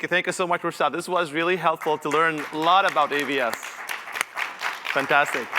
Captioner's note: applause